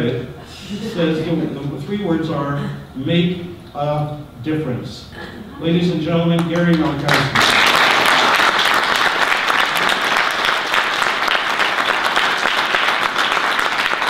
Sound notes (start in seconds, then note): 6.4 audience applause